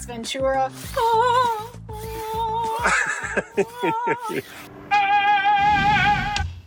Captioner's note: humming; laughing